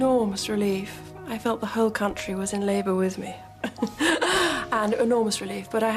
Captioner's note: laughs